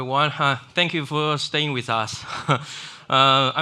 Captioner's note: chuckles